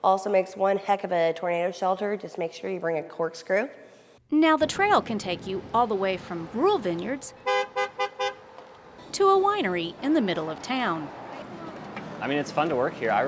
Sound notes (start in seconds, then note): 8.2 horn honking